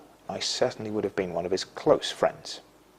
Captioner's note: none